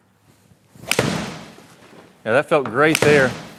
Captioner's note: golf ball thudding